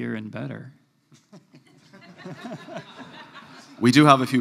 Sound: laughter

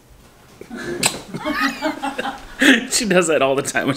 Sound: laughing

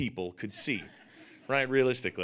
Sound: audience laughing

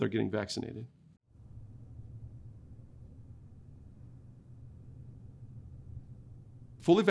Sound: silence

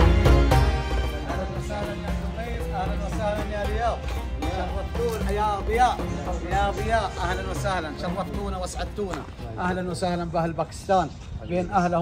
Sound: greeting in Arabic

